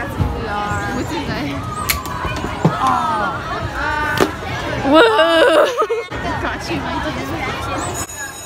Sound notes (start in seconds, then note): 5.3 sarcastically